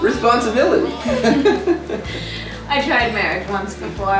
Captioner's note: both laughing